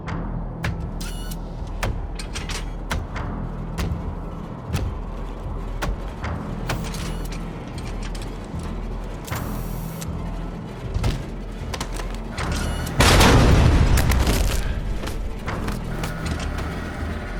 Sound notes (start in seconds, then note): 0.3 footsteps thudding; 4.2 robot whirring; 11.8 gunshot blasts